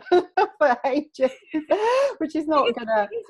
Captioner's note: laughing